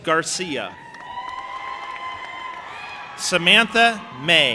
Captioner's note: audience applauding and cheering